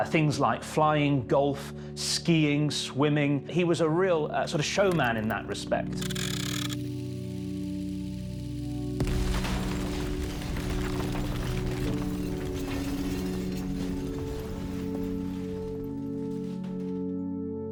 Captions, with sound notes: Things like flying, golf, skiing, swimming. He was a real sort of showman in that respect. (film reel clicks) (explosion booms) (fallout clattering) (gentle music)